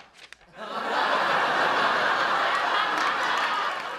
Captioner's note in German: Das Publikum lacht